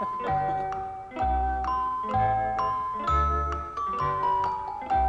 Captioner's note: debaters chuckling